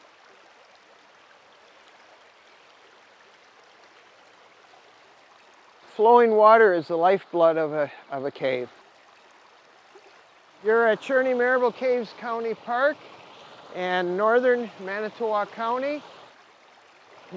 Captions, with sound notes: (stream flowing) - Flowing water is the lifeblood of a cave. You're at Cherney Maribel Caves County Park and Northern Manitowoc County.